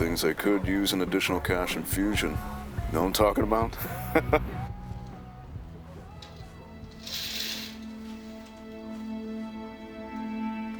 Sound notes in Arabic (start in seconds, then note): 3.8 يضحك; 6.9 موسيقى حزينة